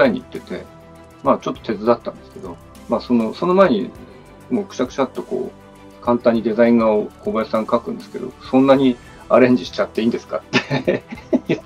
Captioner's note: laugh